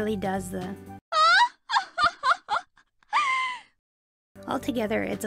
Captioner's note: haughty laugh